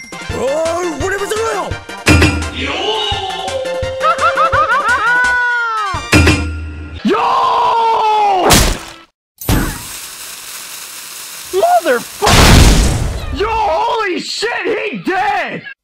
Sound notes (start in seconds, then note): 0.0 Japanese speaking; 6.0 ding; 9.4 poof; 9.4 sizzling; 12.2 boom